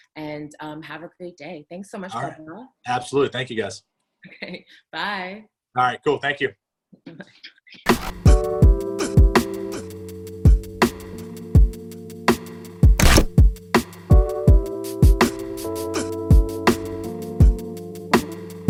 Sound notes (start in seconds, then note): 4.7 chuckles; 7.9 bright upbeat music